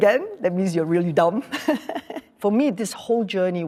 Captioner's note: laughs